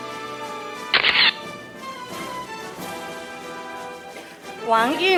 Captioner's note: camera shatters